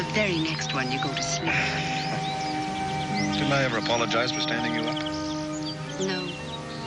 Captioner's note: he sighs